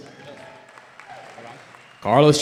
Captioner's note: cheering